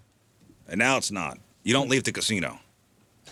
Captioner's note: none